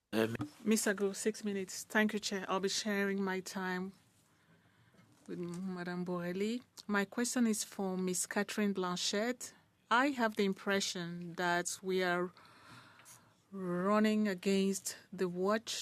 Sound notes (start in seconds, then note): 3.4 speaking French